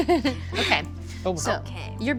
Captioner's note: laughing